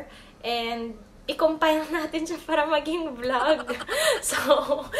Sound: laughs

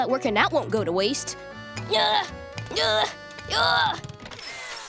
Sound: grunting

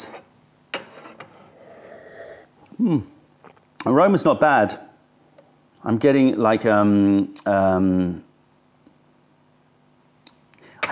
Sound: sips tea

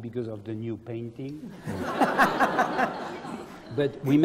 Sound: laugh

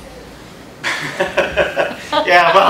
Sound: laughter

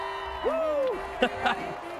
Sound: crowd cheering

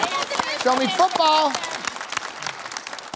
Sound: cheering

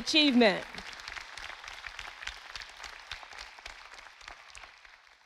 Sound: audience applauding

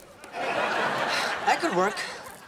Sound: laughing

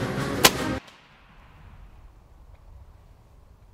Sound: gunshot

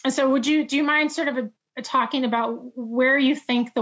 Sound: none

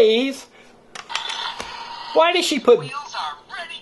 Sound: wheels spinning

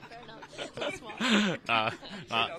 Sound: laughter

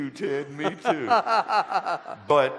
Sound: laughter

